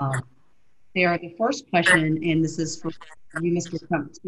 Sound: audio glitch

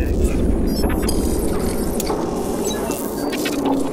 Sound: electronic whirring

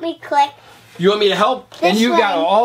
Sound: voiceover

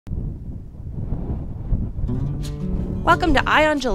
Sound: wind bustling

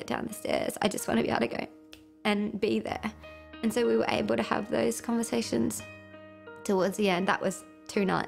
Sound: snaps fingers

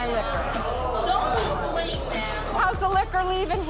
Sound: crowd groans

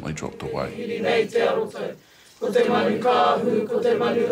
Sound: crowd chanting

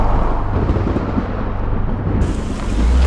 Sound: thunders; tire screeching

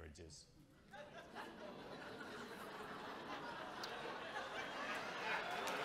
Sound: audience clamoring

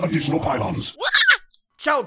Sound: squeaks

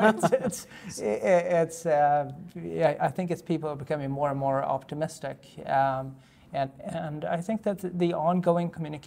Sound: laughter

